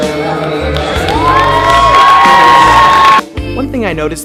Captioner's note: audience cheers